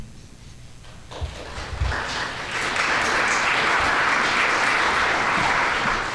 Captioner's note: audience applauding